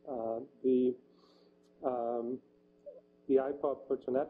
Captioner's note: pause